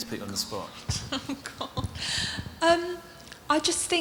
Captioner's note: she laughs